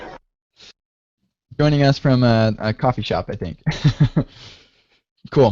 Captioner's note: chuckles